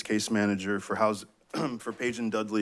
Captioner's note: clears throat